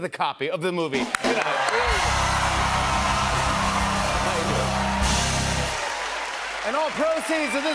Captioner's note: cheers and applause